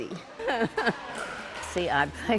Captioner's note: laughing